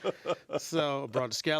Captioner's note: laughter